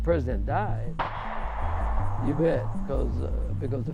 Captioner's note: gunshot